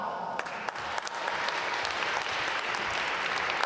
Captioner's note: applause